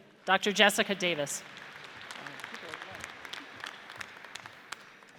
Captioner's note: audience applauds